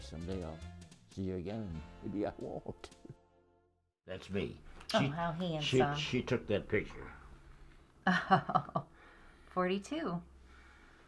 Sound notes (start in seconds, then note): 8.0 laughter